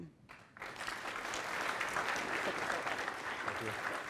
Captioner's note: audience applauding